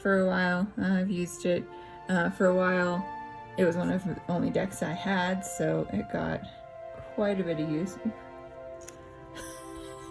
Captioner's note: laugh